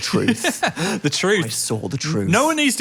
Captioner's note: laughs